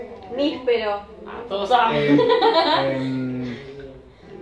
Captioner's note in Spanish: Risas